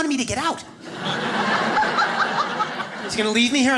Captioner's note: audience laughs